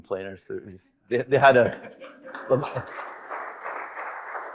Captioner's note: audience applauding